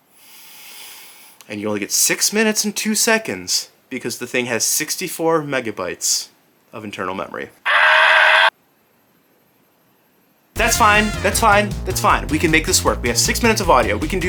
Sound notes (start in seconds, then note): 0.1 inhale; 7.6 screams